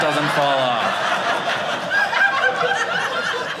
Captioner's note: audience laughing